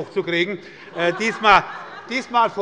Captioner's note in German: Große Heiterkeit